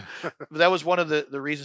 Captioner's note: laughter